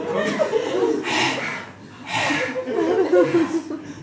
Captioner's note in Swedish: tung andning